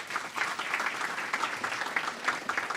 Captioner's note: applause